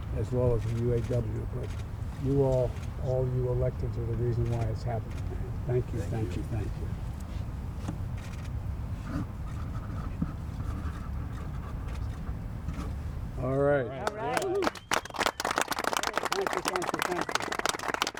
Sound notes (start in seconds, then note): 14.0 applause